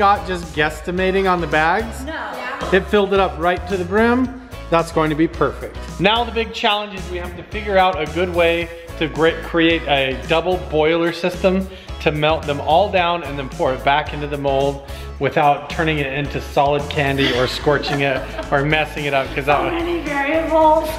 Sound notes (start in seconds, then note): 17.0 laughing